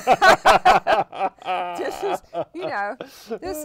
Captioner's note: laughter